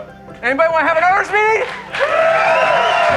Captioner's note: applause